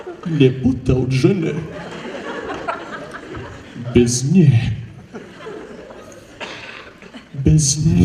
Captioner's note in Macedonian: смеа; смеа